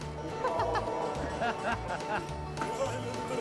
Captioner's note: staff laughing; babbling nonsensically